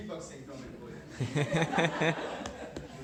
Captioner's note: crowd laughing